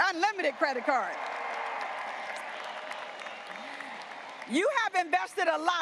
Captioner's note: graduates applauding and cheering